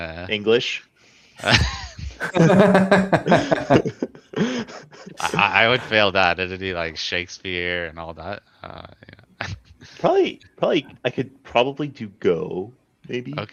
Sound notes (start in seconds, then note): 1.4 laughter